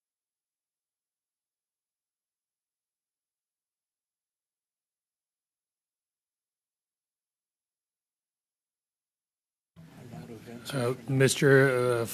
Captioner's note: silence